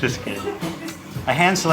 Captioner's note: staff giggles